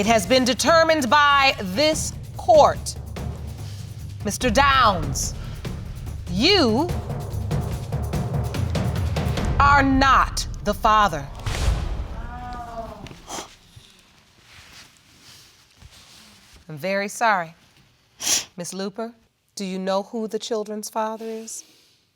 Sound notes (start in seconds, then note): 11.4 audience exclaim; 12.2 sighs; 18.2 sniffles